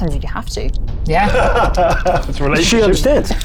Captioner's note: laughs